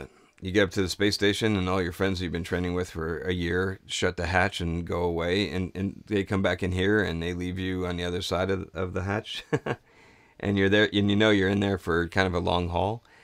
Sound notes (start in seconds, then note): 9.4 chuckles